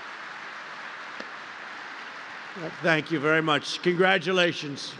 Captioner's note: applause